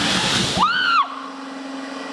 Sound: screaming

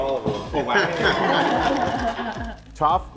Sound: everyone laughs

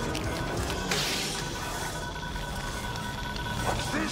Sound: fast beeping

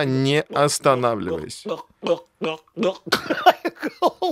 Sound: gulping sound

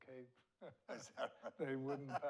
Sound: laughs

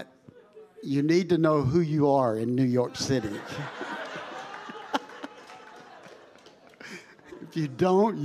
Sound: congregation laughing

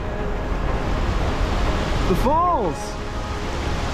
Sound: falls thundering

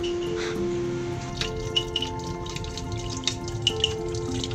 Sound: mill clacking

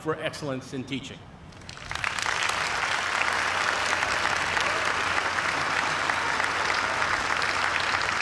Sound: cheers and applause

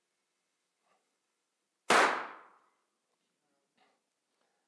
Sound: explosion

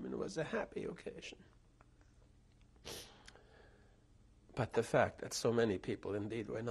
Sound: pauses for 3 seconds

